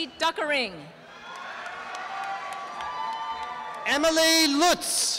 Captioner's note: applause and cheering